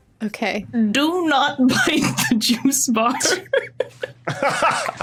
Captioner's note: giggles; others laughing